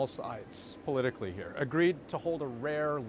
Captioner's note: none